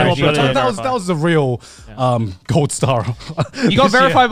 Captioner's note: chuckling